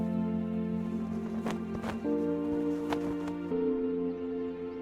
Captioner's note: flags flapping